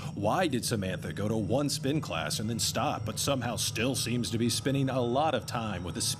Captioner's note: none